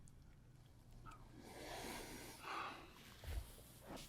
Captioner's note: sighs